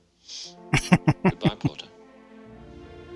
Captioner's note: laughing